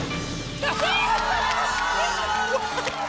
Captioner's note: applause and cheering